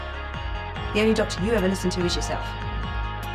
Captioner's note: voiceover